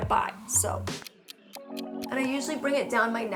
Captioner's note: clock ticking